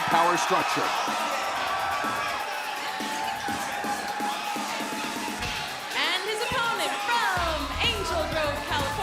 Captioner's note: crowd cheering